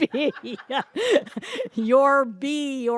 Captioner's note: laughs